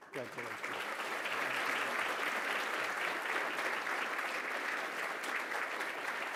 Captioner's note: applause